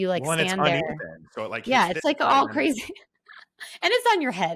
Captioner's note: laughs